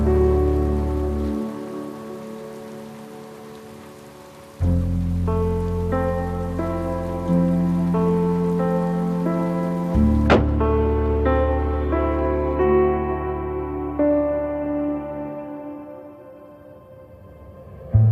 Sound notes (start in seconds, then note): 10.2 car door slams shut